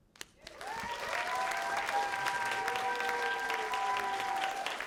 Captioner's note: cheers and applause